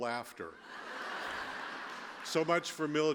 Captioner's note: laughter